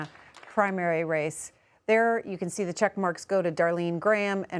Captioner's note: applause